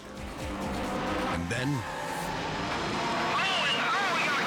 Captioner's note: tires squealing